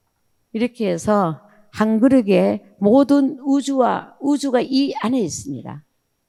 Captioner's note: speaking in foreign language